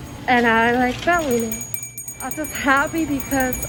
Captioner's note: bell rings